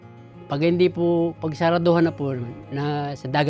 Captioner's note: none